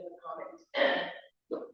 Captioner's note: clears throat